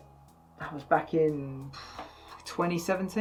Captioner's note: exhales